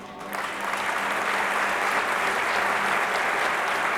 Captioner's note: applause